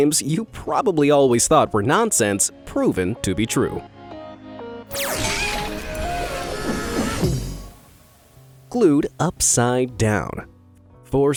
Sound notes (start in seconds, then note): 4.1 gentle music; 4.9 graphic whooshing